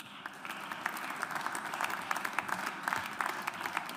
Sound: audience applauds

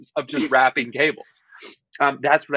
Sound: giggling

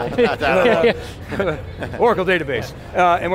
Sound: laughing

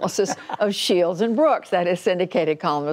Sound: laughter

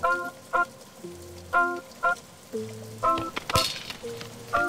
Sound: rain patters

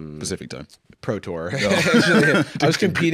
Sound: both laugh

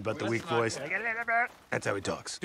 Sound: mocking

